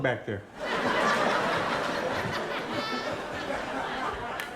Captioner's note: audience laughing